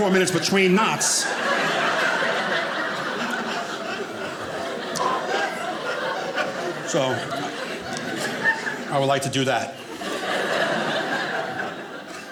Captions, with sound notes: four minutes between knots. (audience laughing) I would like to do that.